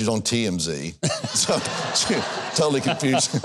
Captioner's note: audience laughs